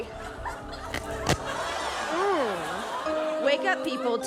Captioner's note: studio audience laughs